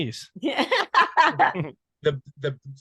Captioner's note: laughing loudly